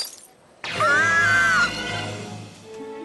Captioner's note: horrified scream